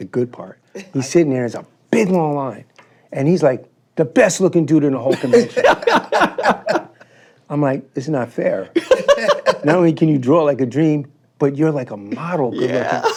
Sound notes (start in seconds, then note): 5.1 laughing; 8.8 laughs